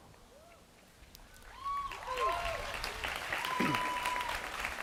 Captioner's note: cheering, applause